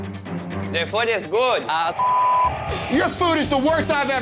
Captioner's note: beep